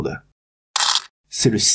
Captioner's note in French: bruit de pièces